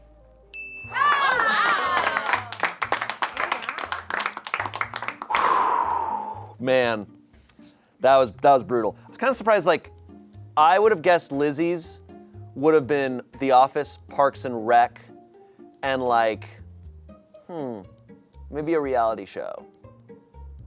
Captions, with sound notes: (bell dings) (audience cheering) (exhales sharply) Man, that was brutal. I was kinda surprised, like I would've guessed Lizzy's would've been "The Office," "Parks and Rec," and like... Hmm. Maybe a reality show.